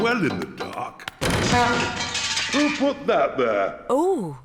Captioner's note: crashing